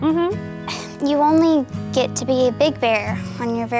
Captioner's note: sighs